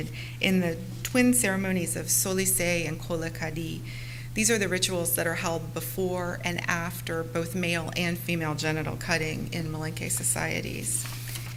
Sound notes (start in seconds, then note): 1.8 foreign language